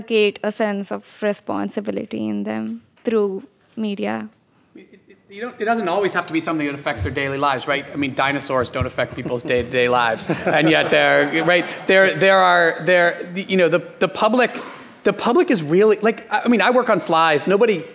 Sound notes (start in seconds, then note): 12.8 laughing